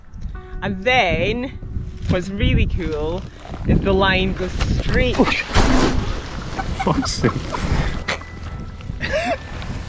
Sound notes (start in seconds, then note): 5.2 grunts; 6.6 laughs